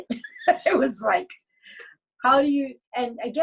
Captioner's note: laughs